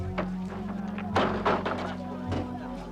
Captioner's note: thud